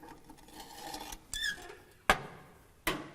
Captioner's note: squeaking